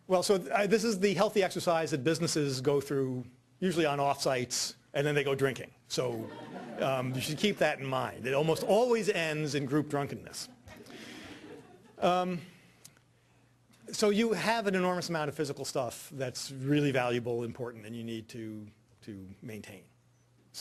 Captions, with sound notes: Well this is the healthy exercise that businesses go through usually on off sites and then they go drinking. So. (audience laughing) You should keep that in mind. They almost always end in group drunkenness. So you have an enormous amount of physical stuff that's really valuable, important, and you need to maintain.